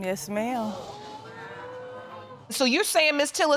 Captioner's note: audience gasp